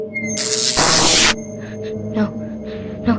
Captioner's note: electric malfunction